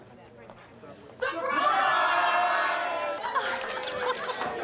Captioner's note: crowd; cameras shuttering